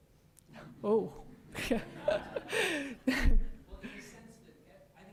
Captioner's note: laughs